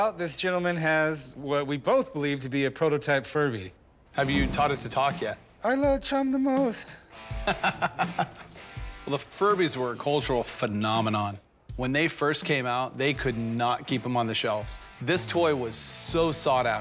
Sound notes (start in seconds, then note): 6.8 laughs